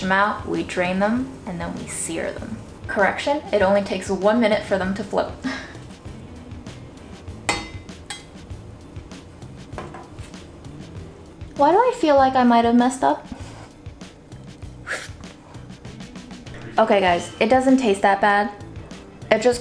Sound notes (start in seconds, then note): 5.8 upbeat music; 7.5 rattling sound; 13.4 upbeat music